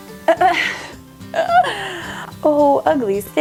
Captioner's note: laughs